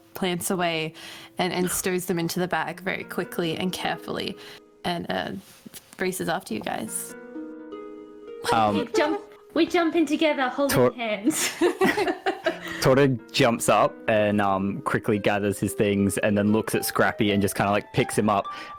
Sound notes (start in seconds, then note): 11.3 laughter